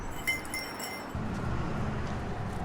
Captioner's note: bell jingles